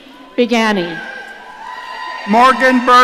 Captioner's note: audience cheering